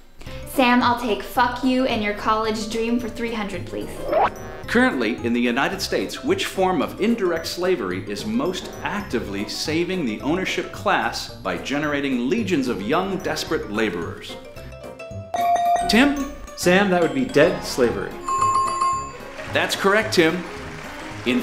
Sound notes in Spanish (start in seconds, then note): 15.3 Sonido de la campana; 18.1 Sonido de Bell; 19.1 Aplausos